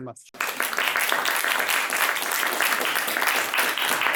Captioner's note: audience clapping